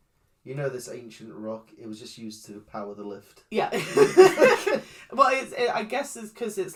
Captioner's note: laughs